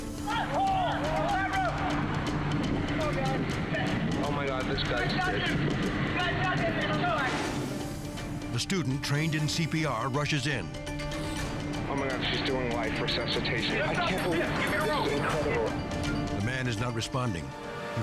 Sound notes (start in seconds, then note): 5.4 people shouting